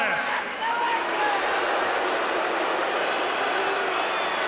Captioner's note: crowd boos